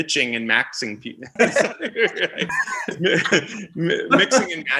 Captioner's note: group laughing